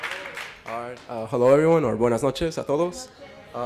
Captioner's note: foreign language